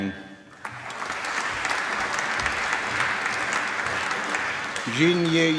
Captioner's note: applause